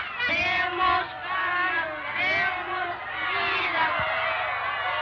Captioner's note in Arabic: أولاد يرددون شعارات باللغة الإسبانية; نساء يصرخن بشكل غير واضح